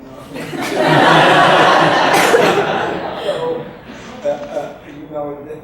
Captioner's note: audience laughs